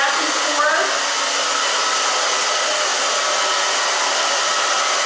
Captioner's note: blow dryer